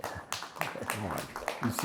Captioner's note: audience applauding